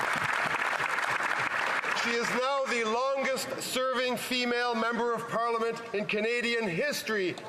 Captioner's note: applause